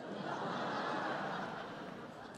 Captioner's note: laughter